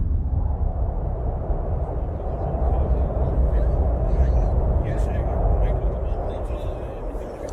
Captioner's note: strong wind